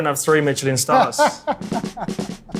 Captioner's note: laughing